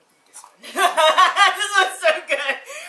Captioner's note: laughing